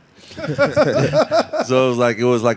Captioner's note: laughing